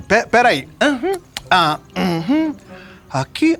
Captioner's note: Chico moans